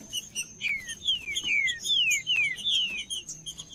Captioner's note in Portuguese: trinca ferro cantando